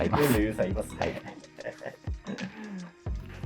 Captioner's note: laughing